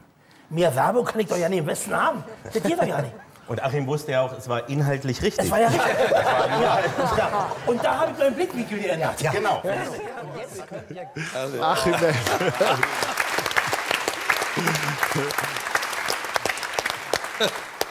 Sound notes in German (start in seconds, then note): 5.6 Lachen; 11.9 Applaus